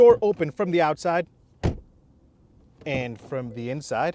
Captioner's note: door bangs